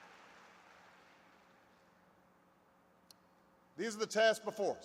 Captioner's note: applause